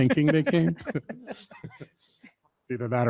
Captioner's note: everyone laughs